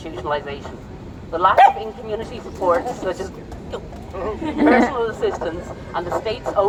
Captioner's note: dog barks agreement. Chuckles